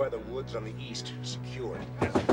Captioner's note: knocking on door